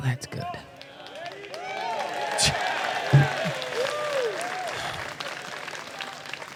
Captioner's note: crowd cheering